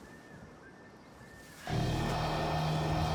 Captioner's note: computerized buzzing